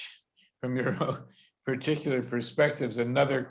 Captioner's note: chuckles